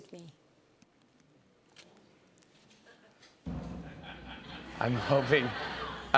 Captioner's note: laughter